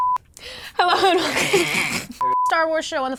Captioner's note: sputtering and giggling